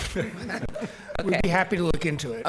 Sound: laughing

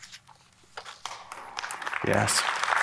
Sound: applause

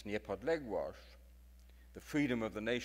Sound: speaks in foreign language

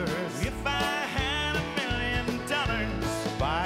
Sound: cheers and Applause

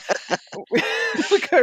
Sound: laughs

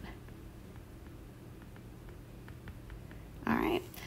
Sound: digital pen tapping noise

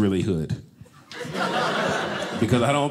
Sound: audience laughing

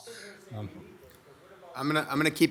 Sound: indistinct audience chatter

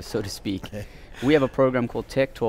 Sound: laughs

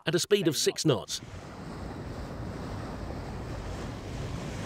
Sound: waves roaring

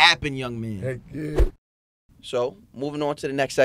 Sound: swooshing

